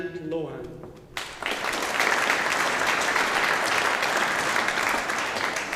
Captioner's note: audience applauding